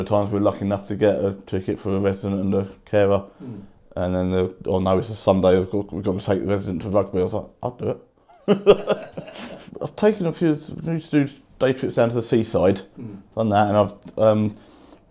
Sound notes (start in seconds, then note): 8.3 laughs